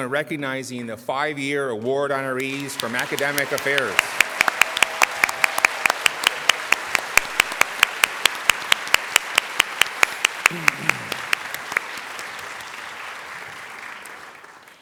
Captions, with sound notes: Please join us now in recognizing the five-year award honorees from academic affairs. [ Applause ]